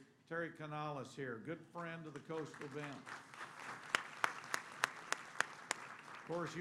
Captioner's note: applause